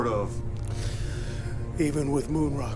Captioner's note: sigh